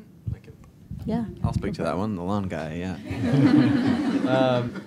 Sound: laughter

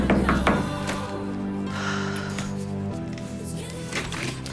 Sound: sighs; exhales deeply

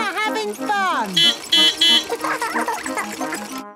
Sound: beeping; laughing

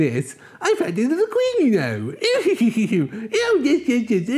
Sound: Peter laughs

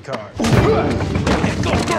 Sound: yell

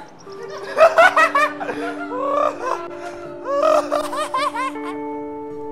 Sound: laughs

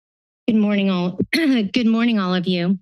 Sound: silence; clearing throat

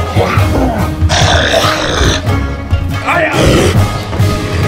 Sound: werewolf snarls

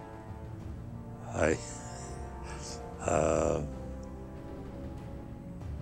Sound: chuckling

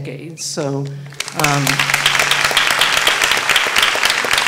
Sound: applause

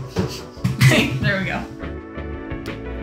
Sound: soft music; soft chuckle; soft music

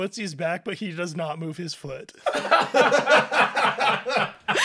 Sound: general laughter

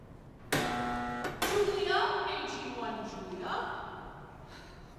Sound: buzzer

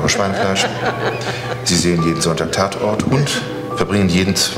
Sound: audience laughing

